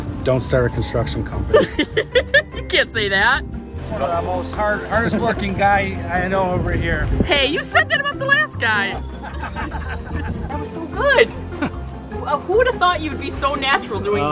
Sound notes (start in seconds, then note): 1.6 laughs; 9.1 men laughing